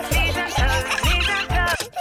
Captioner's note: giggling; music stops